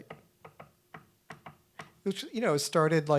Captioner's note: knocking on wood